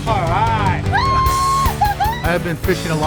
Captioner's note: woman cheers